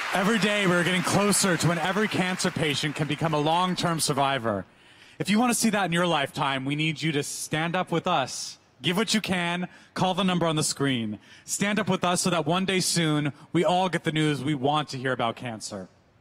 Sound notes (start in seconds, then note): 5.0 applause